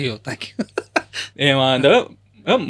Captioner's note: laughs